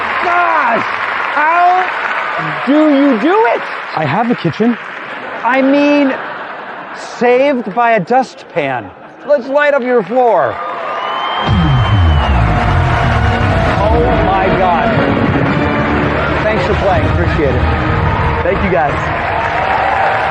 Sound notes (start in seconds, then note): 10.5 cheering and applause; 12.2 dramatic music